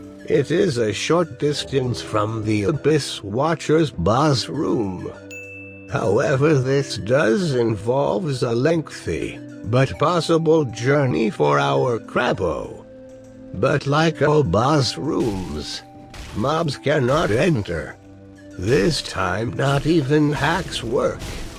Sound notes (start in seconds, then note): 5.3 ding